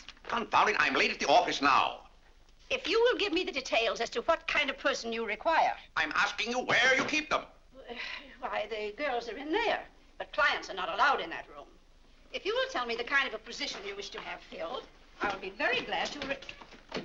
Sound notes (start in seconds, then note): 7.2 banging cane; 7.9 sighs